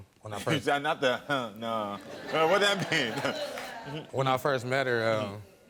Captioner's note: scoffs